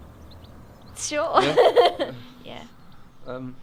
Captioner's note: laughs